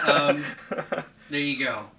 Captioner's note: laughing